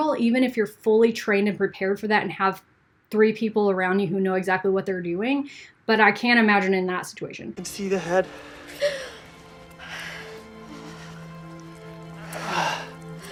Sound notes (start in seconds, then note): 8.4 gasping; 9.8 gentle music